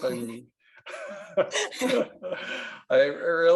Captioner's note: laughing